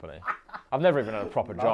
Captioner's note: laughs